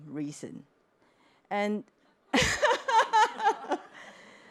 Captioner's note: laughter